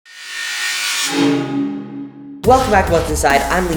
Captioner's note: metal grinding